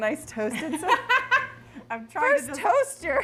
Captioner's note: laughs